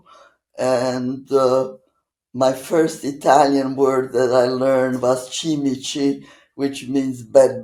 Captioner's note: italian